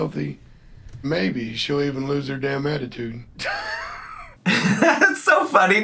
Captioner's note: laughs